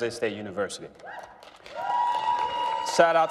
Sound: applause

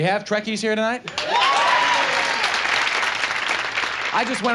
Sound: audience cheers

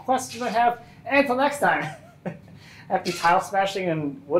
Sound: laughing

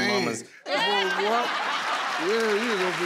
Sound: crowd cheers and laughs

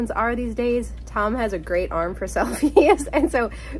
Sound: laughs

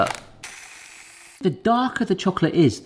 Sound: grinder whirring

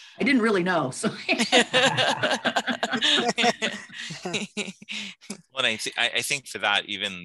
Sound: laughter

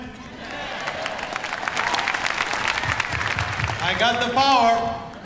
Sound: audience applause

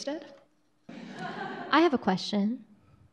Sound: laughing

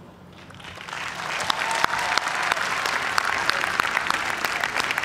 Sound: cheers and applause

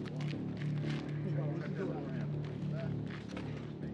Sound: none

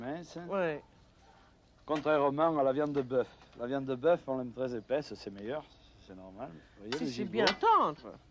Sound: conversing in French

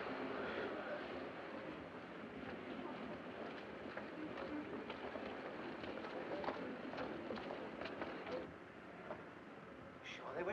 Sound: bus rumbling; city street sounds

